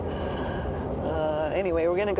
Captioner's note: chuckles